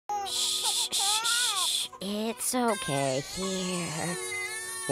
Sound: baby Crying

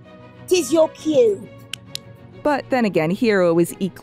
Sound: pat pat

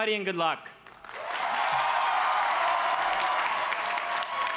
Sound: crowd cheers

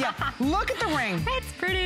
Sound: laughter

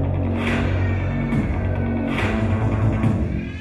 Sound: baby wailing

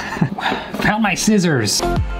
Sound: sighs; laughs; upbeat music

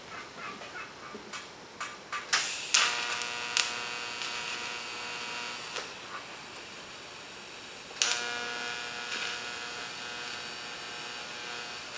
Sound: welding

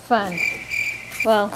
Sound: crickets chirping

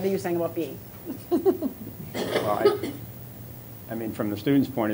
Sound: laughter

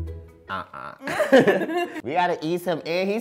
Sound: laughs

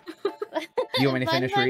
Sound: laughing

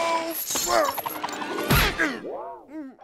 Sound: grunting

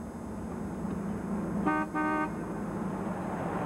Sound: horn honking

